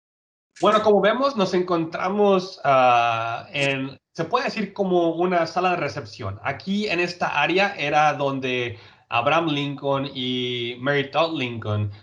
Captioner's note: speaking Spanish